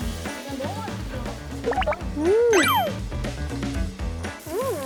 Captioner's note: nom nom